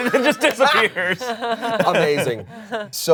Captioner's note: all laugh